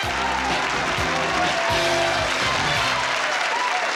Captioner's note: applause